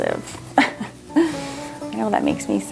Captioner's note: laughs